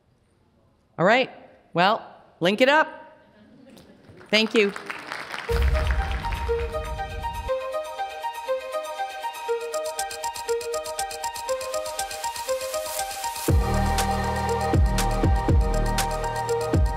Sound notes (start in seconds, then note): 3.8 audience applauding